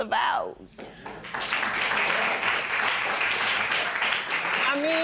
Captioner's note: applause